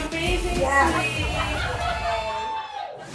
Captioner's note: all cheering